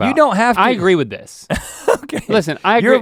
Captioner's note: laughs